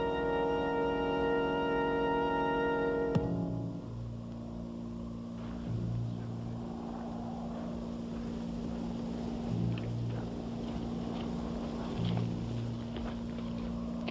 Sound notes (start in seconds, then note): 7.6 footsteps; 11.0 suspenseful music